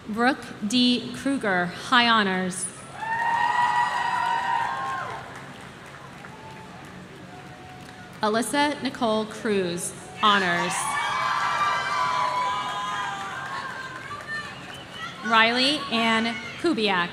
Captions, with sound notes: Brooke D Krueger, High Honors. (audience cheering) Alyssa Nicole Cruz, honors. (audience cheering) Riley Ann Kubiak.